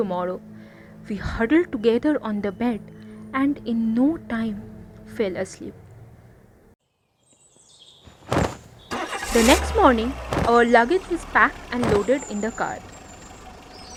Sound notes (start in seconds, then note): 6.0 bird sound; 13.1 luggage being loaded sound